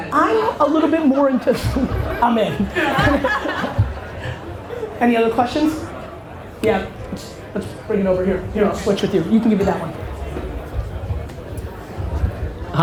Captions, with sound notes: - I'm a little bit more into, (laughing) I'm in. (audience laughter) Any other questions? Yeah, let's bring it over here. Here, I'll switch with you, you can give me that one.